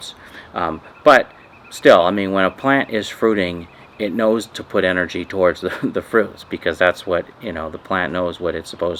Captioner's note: laughing